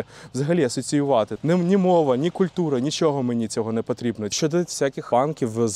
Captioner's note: russian